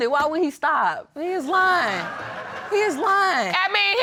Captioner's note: audience laughing